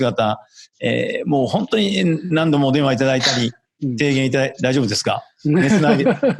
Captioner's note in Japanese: 咳払い